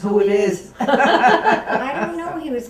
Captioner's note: laughter